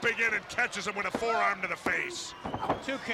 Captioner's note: crowd cheering